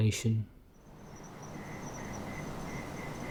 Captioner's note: evening sounds of insects fades in; Los sonidos vespertinos de los insectos se desvanecen